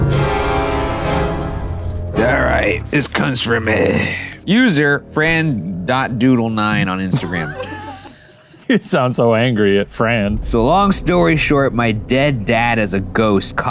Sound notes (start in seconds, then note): 0.2 dramatic foreboding music; 7.0 laughs